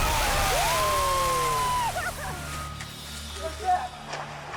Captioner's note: friends cheering